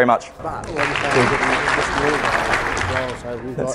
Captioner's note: applause; applause drowns out speaker